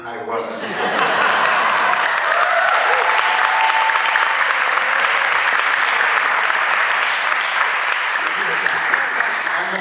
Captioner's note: applause